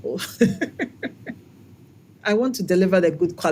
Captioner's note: laugh